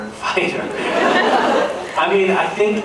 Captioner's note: laughing; laughs